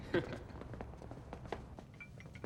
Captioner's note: laughs